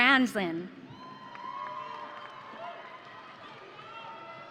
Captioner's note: audience cheering